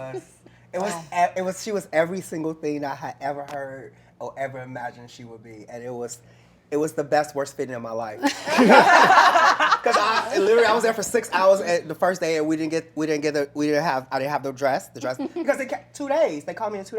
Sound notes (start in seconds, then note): 8.2 laughter